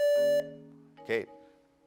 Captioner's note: buzzer beeps